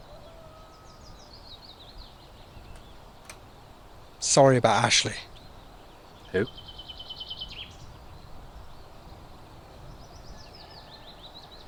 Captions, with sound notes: (birds chirping) Sorry about Ashley. - Who?